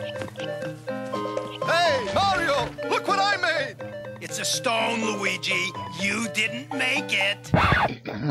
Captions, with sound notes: - Hey, Mario! Look what I made! - It's a stone, Luigi. You didn't make it. - (record scratches)